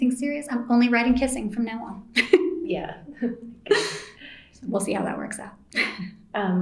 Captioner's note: laughs